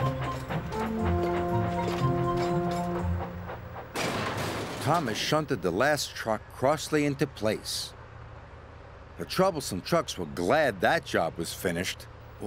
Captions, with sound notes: ( Metal Clanging ) THOMAS SHUNTED THE LAST TRUCK CROSSLY INTO PLACE. THE TROUBLESOME TRUCKS WERE GLAD THAT JOB WAS FINISHED.